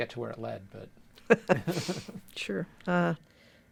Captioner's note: chuckles